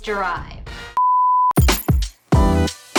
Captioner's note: beep